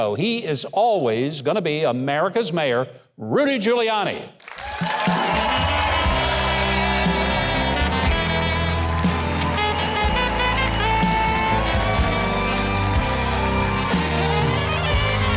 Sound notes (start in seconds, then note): 4.6 audience cheering; 7.2 upbeat jazz music